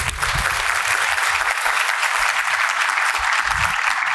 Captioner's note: audience applause